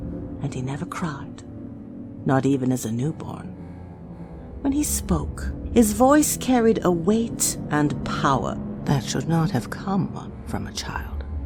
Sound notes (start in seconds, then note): none